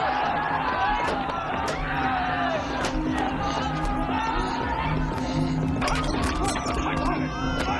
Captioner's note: yelling; baby crying